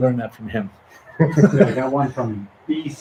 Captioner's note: both laughing